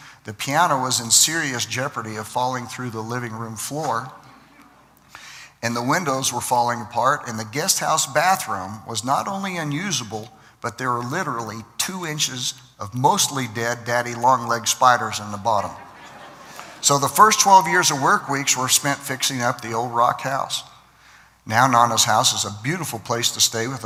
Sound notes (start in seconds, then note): 15.7 laughter